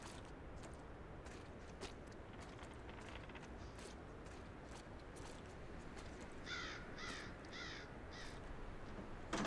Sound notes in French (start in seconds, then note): 1.7 bruits de pas dans la boue; 6.4 cris d'oiseaux